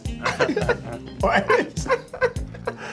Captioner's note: laughing